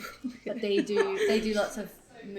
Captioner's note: laughs